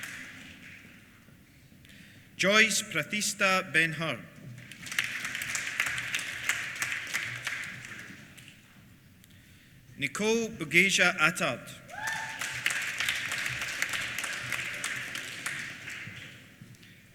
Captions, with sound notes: Joyce Prathishta Benhur. (APPLAUSE) Nicole Bugeja Attard. (APPLAUSE)